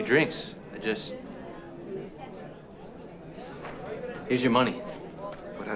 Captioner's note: indistinct chatter